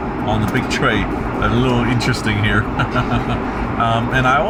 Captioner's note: laughs